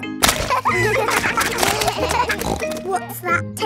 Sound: kids laughing; snorts

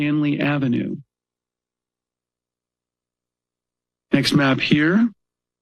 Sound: pause

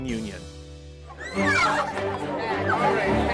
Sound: girls excited

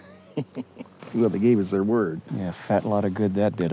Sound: chuckles

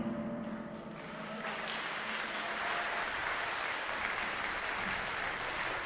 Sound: congregation clapping

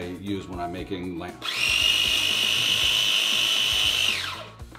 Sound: blender grinding

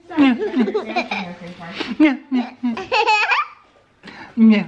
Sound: laughing

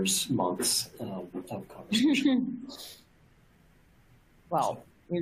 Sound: laughs

